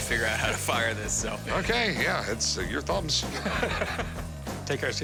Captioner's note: laughs